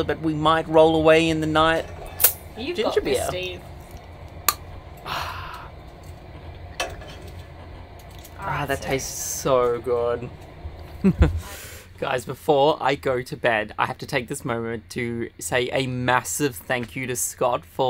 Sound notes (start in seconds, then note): 4.4 cap popping; 10.9 laughing